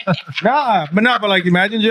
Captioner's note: laughing